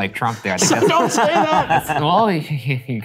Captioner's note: all laughing